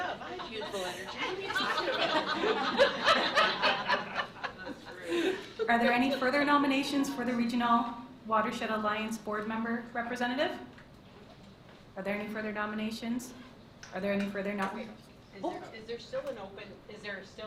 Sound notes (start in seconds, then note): 1.9 laughter